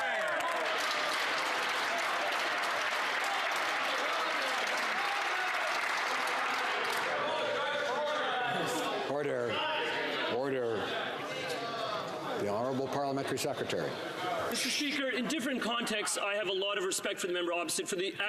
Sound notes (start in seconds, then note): 4.7 some Applause